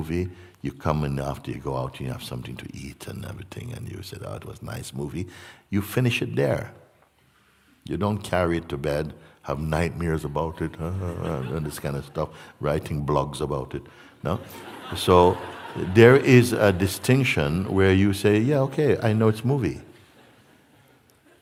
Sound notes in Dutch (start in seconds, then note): 14.3 gelach